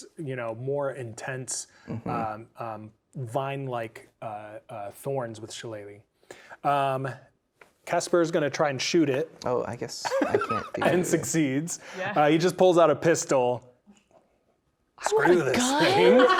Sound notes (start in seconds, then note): 10.0 laughing